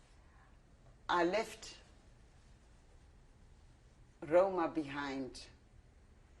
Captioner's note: pauses for 3 seconds